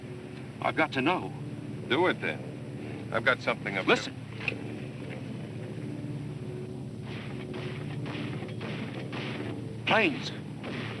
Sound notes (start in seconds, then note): 4.4 plane whooshing